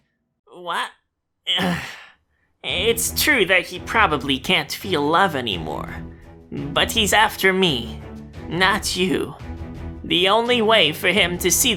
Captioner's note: exhale